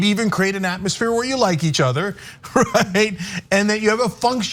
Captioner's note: laugh